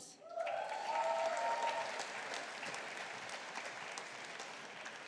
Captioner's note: audience applauding